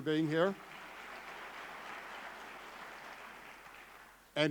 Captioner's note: clapping